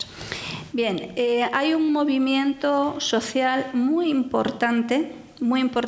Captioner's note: speaking in foreign language